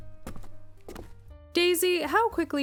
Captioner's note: footsteps